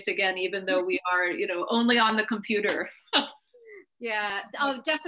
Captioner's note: laughing